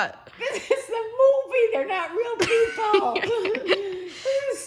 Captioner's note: laughs